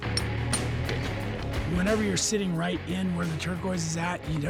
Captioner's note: hammering